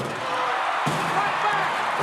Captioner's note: audience cheering